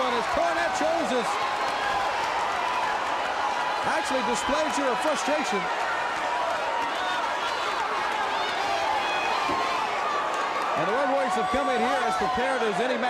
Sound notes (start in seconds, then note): 2.6 crowd cheering; 7.1 crowd cheering